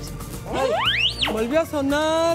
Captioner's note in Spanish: Pitido